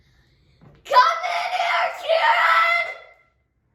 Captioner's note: yells